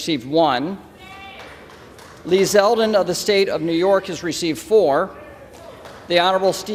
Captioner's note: applause